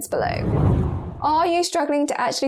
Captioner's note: video effect whooshes